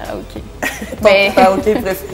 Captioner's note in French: rires